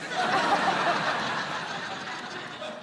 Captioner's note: laughter